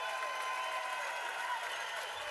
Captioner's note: cheers and applause